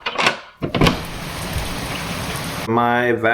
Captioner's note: rain sounds